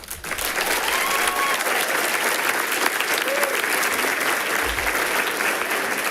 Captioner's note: people cheering and clapping